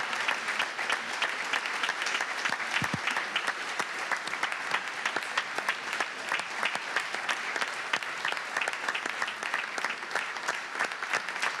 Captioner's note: applause